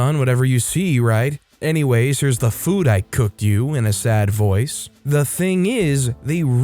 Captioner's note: in a sad voice